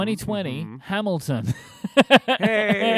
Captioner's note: laughter